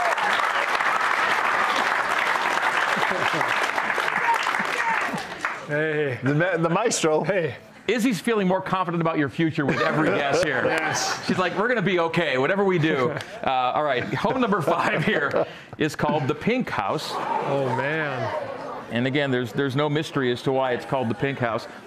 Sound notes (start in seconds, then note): 3.2 cheers and applause